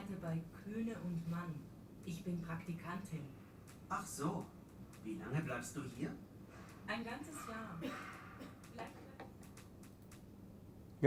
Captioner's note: textbook audio is played